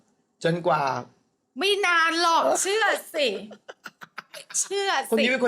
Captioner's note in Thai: เสียงหัวเราะ